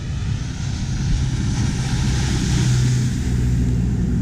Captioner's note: engine hums